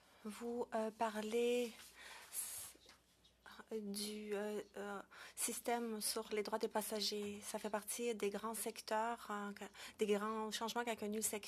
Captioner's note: speaking French